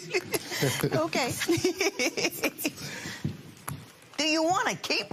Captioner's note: laughter